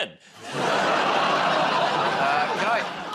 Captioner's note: laughter